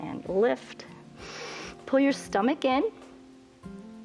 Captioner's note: inhales